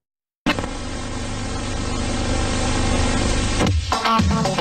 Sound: VHS static

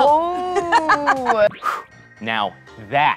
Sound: laughs

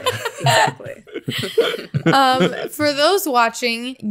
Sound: all laughing

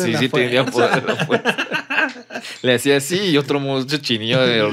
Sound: laughs

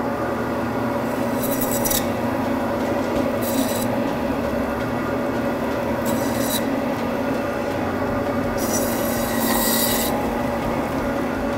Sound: saw sound

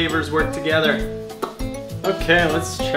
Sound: lip pop

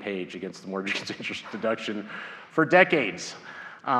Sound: laughs

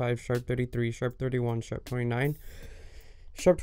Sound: big breath

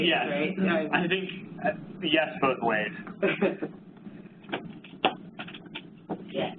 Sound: laughs

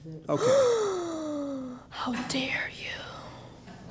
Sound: gasps

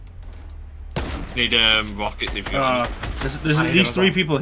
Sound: guns firing

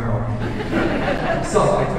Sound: audience laughing

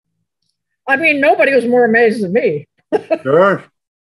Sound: laughs

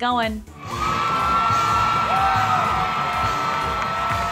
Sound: audience cheering

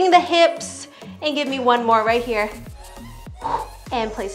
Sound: exhales heavily

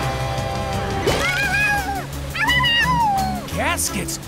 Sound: barking

